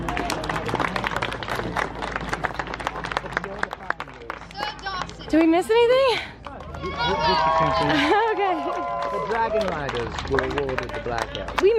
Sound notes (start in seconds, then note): 0.0 crowd applauding; 6.5 crowd cheering